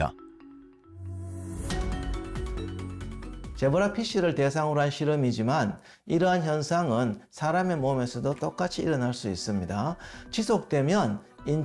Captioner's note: voiceover